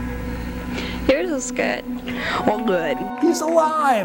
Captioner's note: crowd cheers